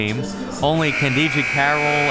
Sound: buzzer

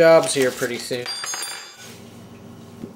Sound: silverware clatters

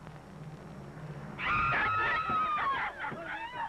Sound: screams; indistinct shouting

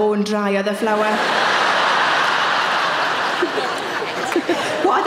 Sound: audience laughing

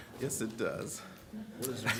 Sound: laughter

